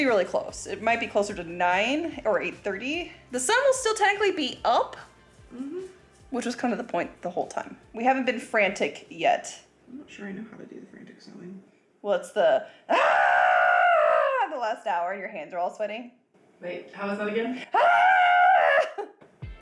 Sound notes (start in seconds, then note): 12.9 screaming; 17.7 screaming; 19.3 laughing